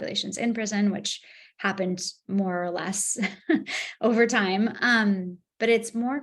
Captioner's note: laughs